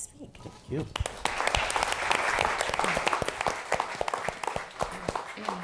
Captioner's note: applause